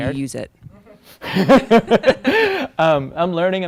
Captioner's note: laughing